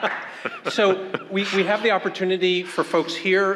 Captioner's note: room laughs